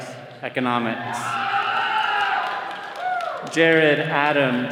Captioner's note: all cheering